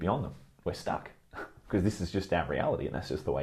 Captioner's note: chuckles